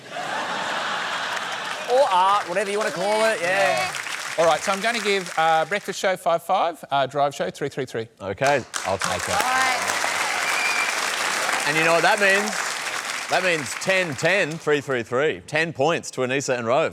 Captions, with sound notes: (LAUGHTER) Or art, whatever you want to call it. Yeah. Alright, so I'm going to give Breakfast Show - 5, 5. Drive Show - 3, 3, 3. OK. I'll take it. Alright. (APPLAUSE) And you know what that means. That means 10, 10, 3, 3, 3. 10 points to Anisa and Rove.